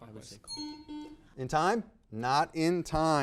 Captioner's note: time buzzer beeping